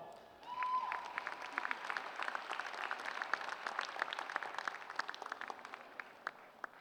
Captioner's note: applause